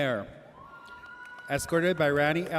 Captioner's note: audience cheers